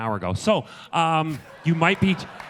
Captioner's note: audience laughter